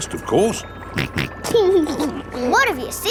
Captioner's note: snorts and laughs